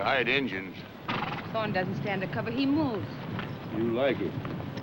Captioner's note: hooves thundering